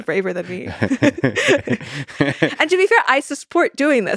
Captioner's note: both laughing